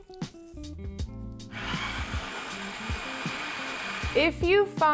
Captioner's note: food processor grinds